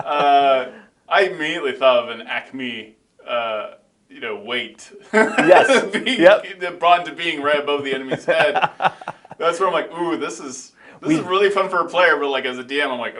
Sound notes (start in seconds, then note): 4.9 laughing; 7.7 laughing